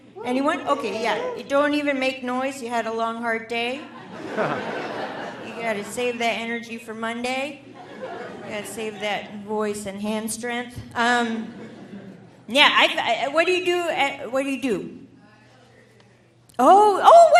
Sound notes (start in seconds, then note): 3.9 audience laughing